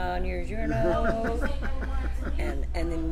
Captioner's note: laughs